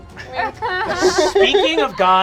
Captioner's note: cast laughing